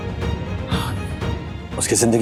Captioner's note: sighs